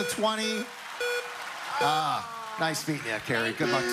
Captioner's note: beeping